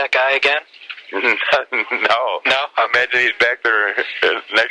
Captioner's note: laughs